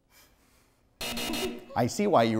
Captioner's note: buzzer